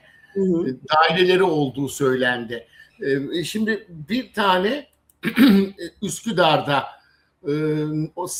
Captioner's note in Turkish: boğazını temizler